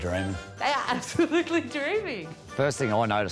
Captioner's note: laughing